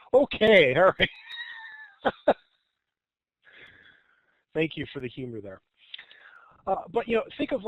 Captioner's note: chuckles